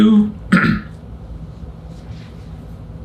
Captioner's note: clears throat